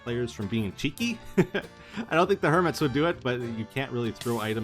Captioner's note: laughs